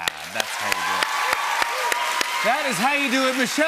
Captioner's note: cheers and applause